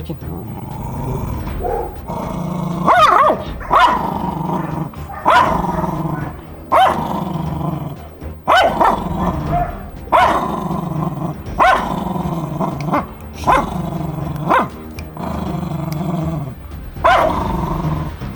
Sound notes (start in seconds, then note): 0.2 growling sound and tension music; 2.9 barking, growling sounds and tension music